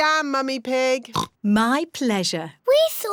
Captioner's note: oinks